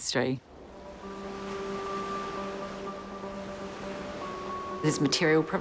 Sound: waves crashing; relaxing music

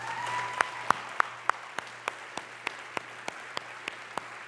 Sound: congregation applause

